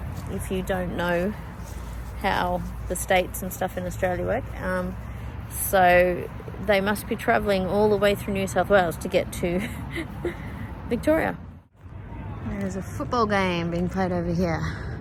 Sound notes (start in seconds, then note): 9.6 chuckles